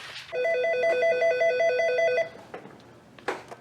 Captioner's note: telephone ringing